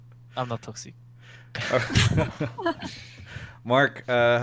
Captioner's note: laughs